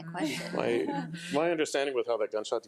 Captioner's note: laughs